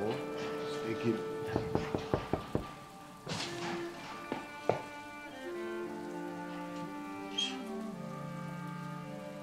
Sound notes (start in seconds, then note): 0.9 speaks in foreign language; 1.5 Gold knocking